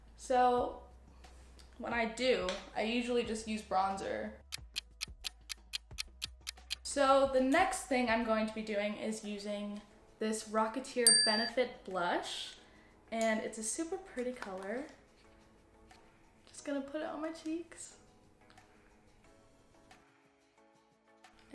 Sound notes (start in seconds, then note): 4.5 clock ticking; 11.0 ding